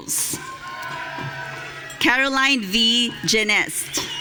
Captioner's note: audience cheering